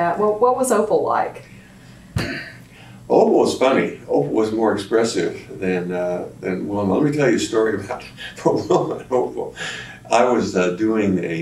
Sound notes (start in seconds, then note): 8.2 laughs